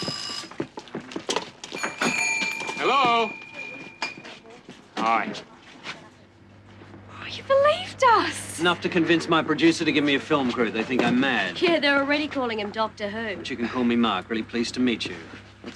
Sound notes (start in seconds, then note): 0.1 doorbell ringing; 1.7 bells jingling